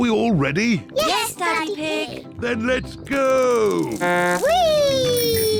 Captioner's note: blows horn